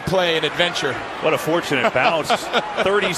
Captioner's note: laughing